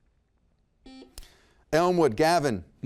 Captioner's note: buzzer beeps